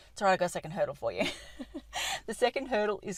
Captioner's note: laughter